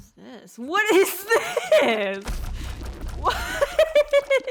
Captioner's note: laughter; laughter